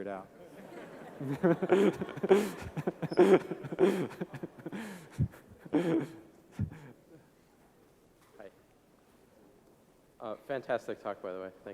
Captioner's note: laughs